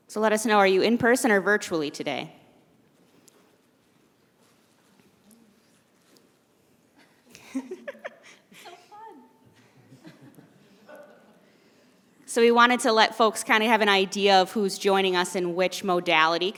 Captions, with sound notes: So, let us know are you in-person or virtually today? [ Laughing ] >> So fun. [ Audience Member Chuckle ] >> So, we wanted to let folks kind of have an idea of who's joining us in which modality,